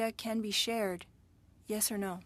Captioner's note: speaking French